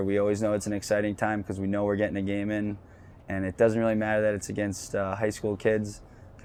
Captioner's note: none